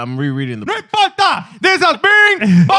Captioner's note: speaking In Foreign Language